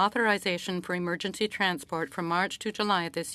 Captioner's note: speaking French